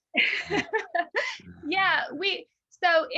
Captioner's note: laughs